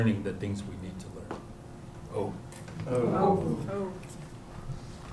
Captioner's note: non-english